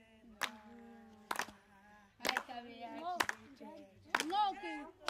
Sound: women speaking in native language

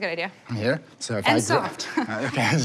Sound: laughs

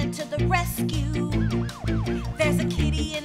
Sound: siren wailing

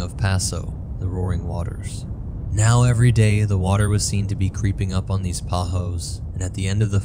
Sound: the roaring waters

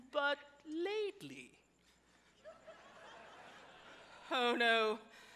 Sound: audience laughs

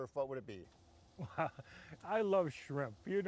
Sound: laughs

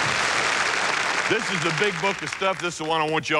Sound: applause

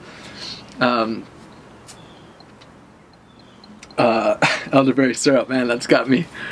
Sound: tapping jar to think

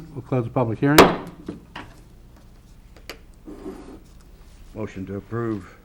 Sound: gavel banging

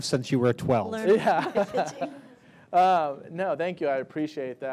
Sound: laughing

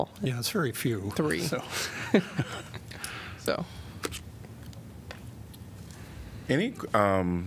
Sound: laughter

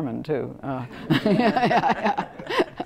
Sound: laugh

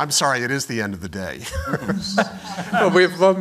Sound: laughter

